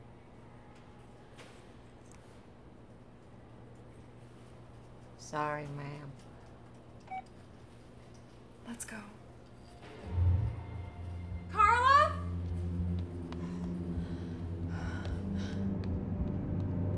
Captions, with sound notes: Sorry, ma'am (cash register beeping) - Let's go. Carla!? (ominous music)